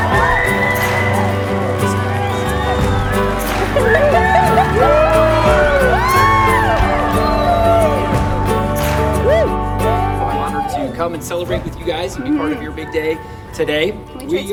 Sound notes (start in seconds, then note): 8.1 crowd cheering